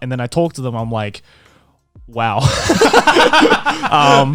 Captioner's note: laughing